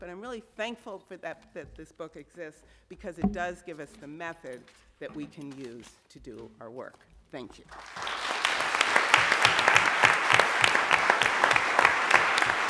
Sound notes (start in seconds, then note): 7.6 audience clapping